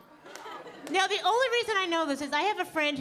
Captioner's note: audience laughing